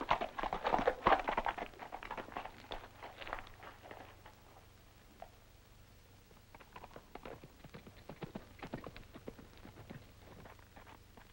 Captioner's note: galloping